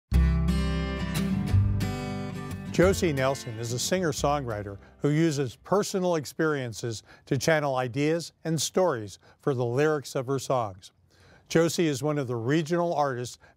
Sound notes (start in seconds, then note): 0.1 acoustic guitar music; 2.8 voiceover